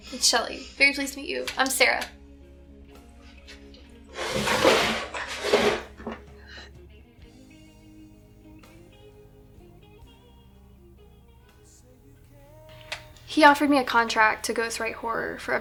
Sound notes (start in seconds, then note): 4.1 chair scraping; 6.5 soft country music